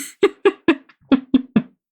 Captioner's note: laughs